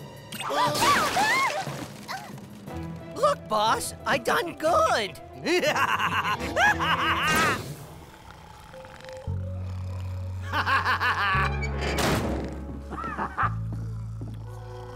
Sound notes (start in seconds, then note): 2.7 maniacal laughter; 5.2 snoring; 8.2 laughing; 11.7 snoring